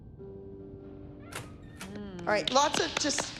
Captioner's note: door opening